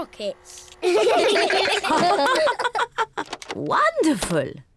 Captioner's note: all laugh